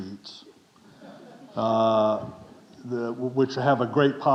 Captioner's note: audience chuckling